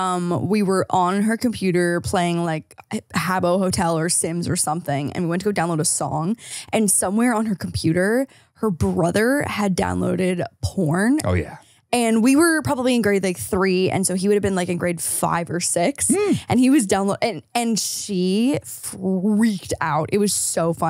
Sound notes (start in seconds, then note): 14.5 laughs